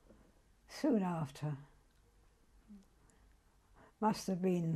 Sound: pauses for 3 seconds

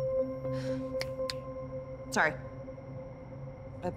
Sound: sighs, snaps fingers

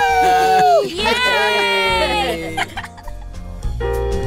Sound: laughter, Cheers

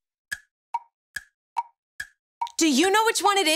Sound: clocking ticking

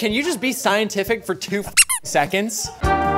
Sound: squeak

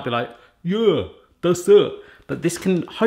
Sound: mocking impression

